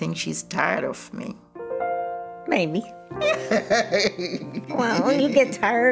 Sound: laughter

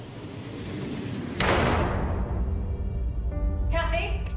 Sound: gunshot firing in the distance

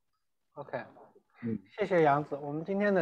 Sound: Mandarin

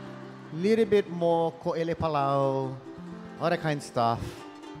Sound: speaking in Hawaiian; speaking in Hawaiian

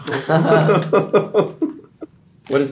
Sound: all laughing

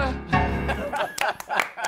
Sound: laughter; applause

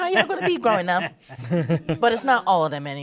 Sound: participants chuckling

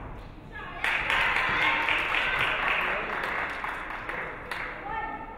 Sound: audience clapping

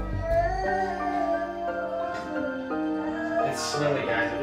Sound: dramatic music; Parker moaning

